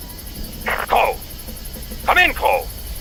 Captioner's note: radio